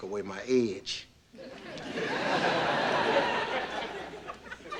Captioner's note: audience laughing